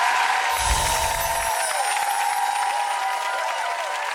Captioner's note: waves crash